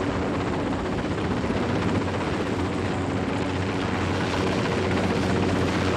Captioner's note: helicopter engines rumbling